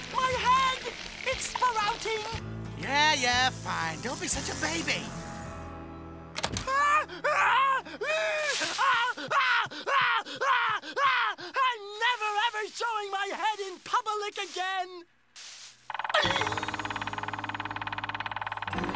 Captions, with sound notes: My head, it's sprouting. Yeah, yeah, fine. Don't be such a baby. [Screaming] I'm never ever showing my head in public again!